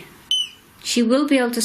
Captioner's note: beep